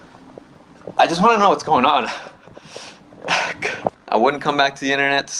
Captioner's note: chokes up